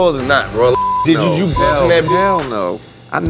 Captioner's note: beep